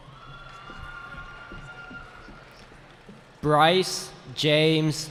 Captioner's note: cheering